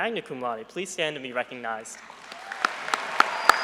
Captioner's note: applause